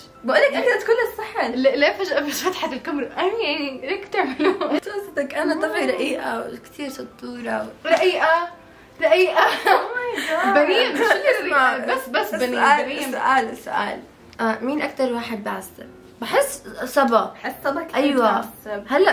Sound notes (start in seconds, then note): 4.2 chuckles; 9.0 chuckles